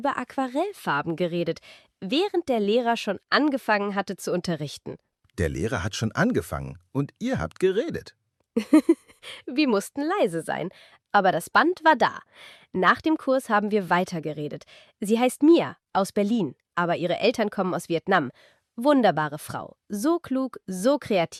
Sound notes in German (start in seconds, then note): 8.6 gelächter